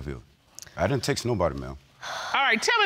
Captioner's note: sighs